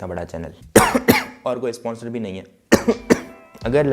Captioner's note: coughing